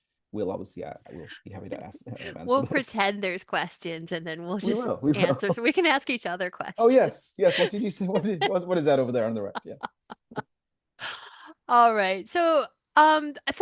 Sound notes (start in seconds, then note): 10.6 laughs